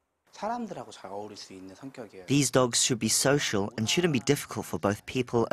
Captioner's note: Korean